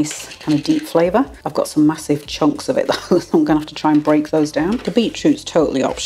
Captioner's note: laugh